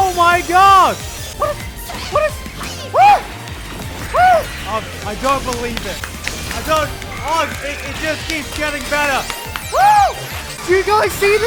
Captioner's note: Hyped Gigguk noises